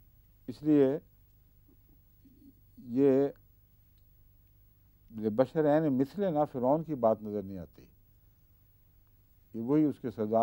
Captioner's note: Arabic